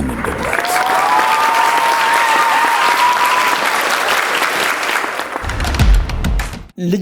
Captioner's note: applause